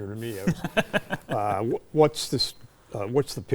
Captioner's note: chuckling